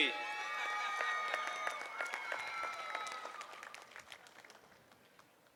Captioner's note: applauding and cheering